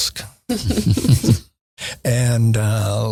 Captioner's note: chuckling